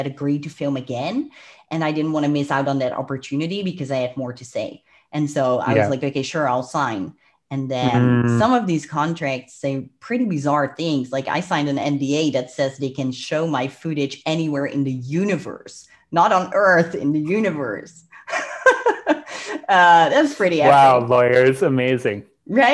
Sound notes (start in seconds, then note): 18.1 laughs